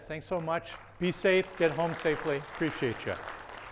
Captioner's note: attendees applauding